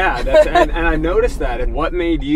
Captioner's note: laughing